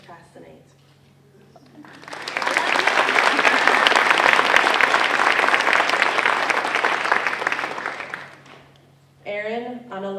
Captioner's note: applause